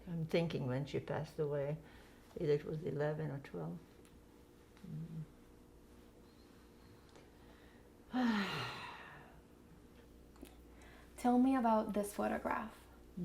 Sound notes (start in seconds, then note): 8.1 sighing